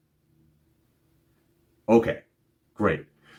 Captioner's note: short pause